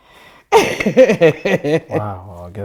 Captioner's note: laughing